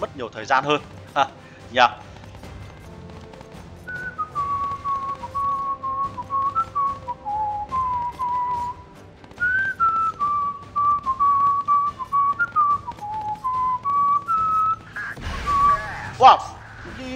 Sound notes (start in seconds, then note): 9.3 whistle